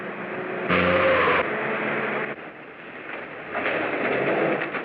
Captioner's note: tires screech